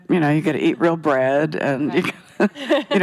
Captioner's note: chuckles